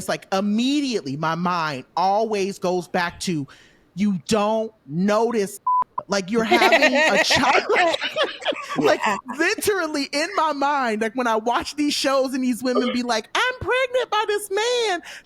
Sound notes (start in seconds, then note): 5.6 beep; 8.7 laughing